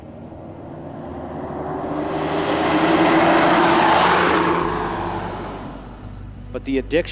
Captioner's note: engine revs